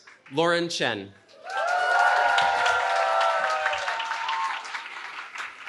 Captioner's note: cheering